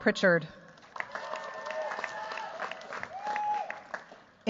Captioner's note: cheers, applause